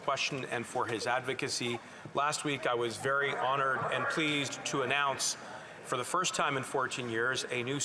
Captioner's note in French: voix de l'interprète